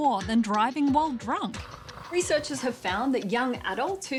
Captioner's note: snoring